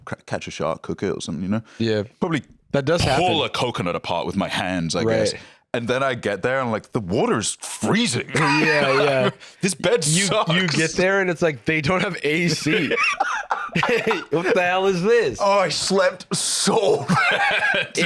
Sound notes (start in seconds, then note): 8.3 laughs